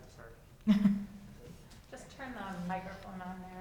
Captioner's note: chuckles